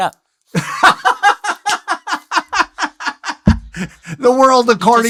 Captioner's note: laughs